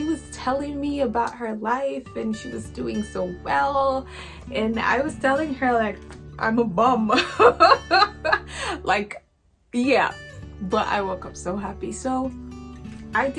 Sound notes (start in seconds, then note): 7.2 laughs